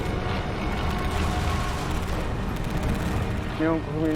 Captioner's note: guns firing; speaking in Japanese